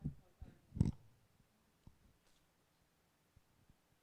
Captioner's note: mic rumbling